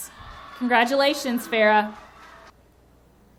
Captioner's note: audience cheering